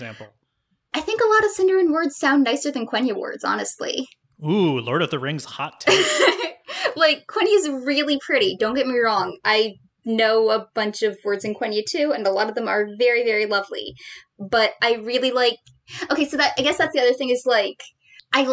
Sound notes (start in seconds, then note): 4.5 laughs